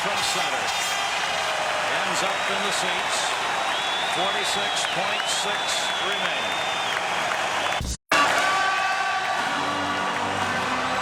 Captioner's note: cheers and applause